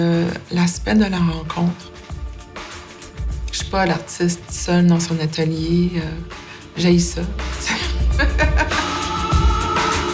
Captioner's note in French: rires